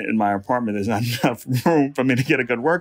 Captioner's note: laughs